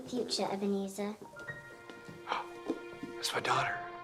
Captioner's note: gasps